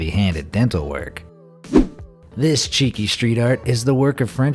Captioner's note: air whooshing